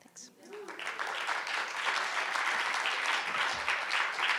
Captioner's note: audience applauding